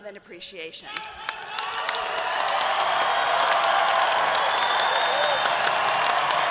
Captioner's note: audience applauding and cheering